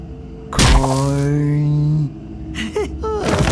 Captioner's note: thwack